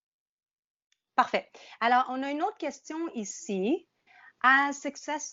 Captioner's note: speaking in French